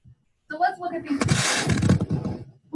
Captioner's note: feedback from camera moving